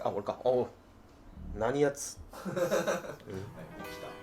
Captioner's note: laughing